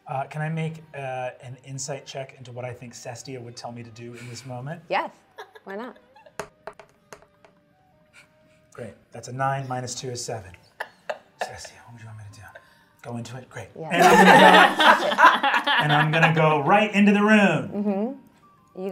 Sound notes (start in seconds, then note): 6.4 die rolling; 13.9 all laughing